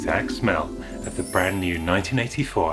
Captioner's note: fantasy Magic Warble Sound Effect; magical Tinkling Sound